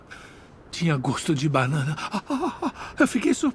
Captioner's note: groaning